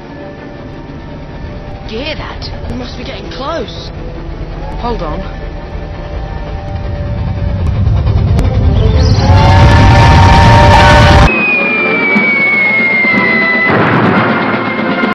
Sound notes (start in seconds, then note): 8.8 train Approaches